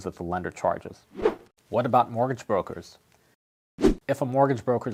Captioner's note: air whooshes; air whooshes